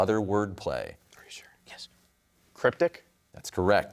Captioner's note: whispers